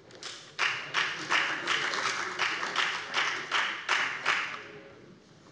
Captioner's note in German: Beifall bei der FDP